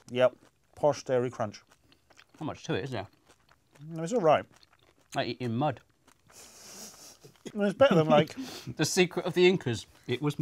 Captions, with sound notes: Yep, posh dairy crunch. - There's not much to it is there? - It's alright. - Like eating mud. (laughs) - It's better than like... - The secret of the Incas.